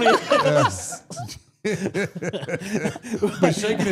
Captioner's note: group laughs